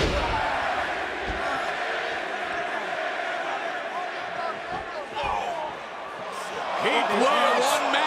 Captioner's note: crowd cheering